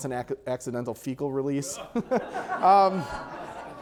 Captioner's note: audience laughter